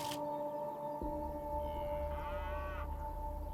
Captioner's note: cow mooing